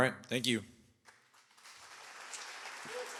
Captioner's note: applause